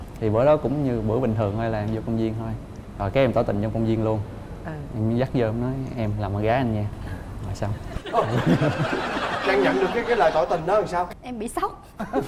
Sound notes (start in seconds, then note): 7.9 laughing